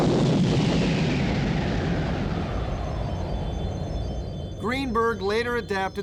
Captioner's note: explosion